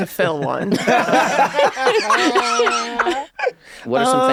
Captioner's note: laughing